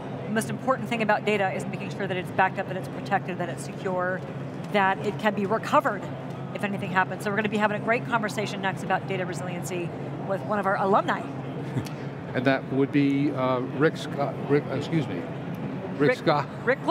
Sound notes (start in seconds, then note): 11.7 laughs